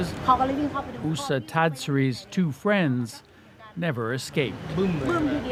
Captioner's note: speaking alternate language